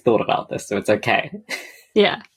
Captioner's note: laughs